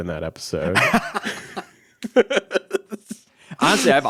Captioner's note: laughs